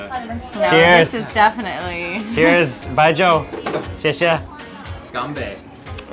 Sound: laughs nervously

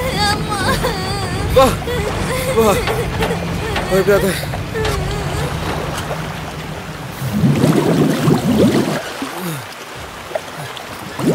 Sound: screaming in pain

